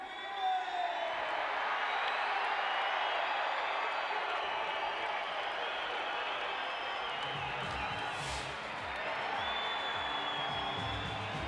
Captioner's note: applause